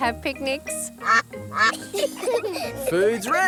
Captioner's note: quacking; children giggle